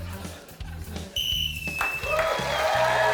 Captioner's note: blows whistle; cheering, applause